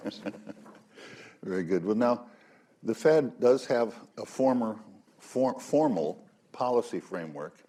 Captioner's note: laughs